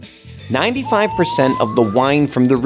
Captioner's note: slide whistle blows